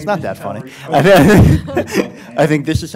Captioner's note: laughing